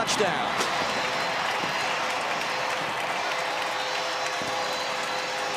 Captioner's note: cheering